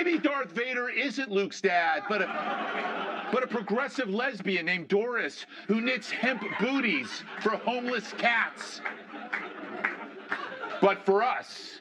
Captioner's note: laughter